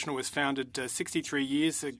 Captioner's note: speaking French